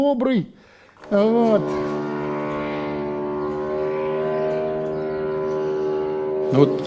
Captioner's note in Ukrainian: звук дрона